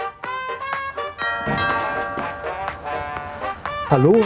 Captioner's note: doorbell, relaxed music